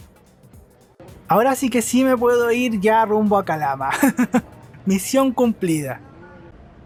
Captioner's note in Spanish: risas